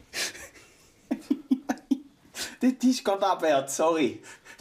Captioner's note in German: Lachend